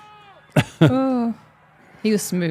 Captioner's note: Undertaker chuckling